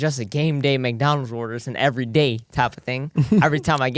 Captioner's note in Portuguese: risos